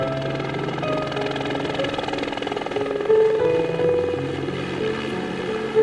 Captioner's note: helicopter whirring; light piano music